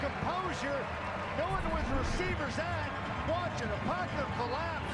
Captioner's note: cheers and applause